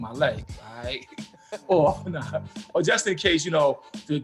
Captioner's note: laughing